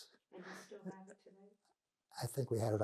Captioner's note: laughing